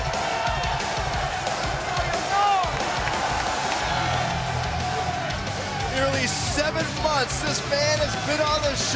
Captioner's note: crowd cheering